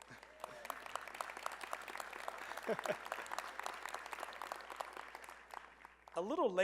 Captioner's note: applause